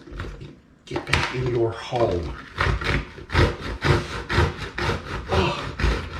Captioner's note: grating sounds continue